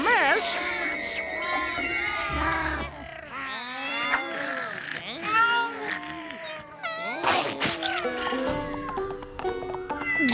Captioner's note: meowing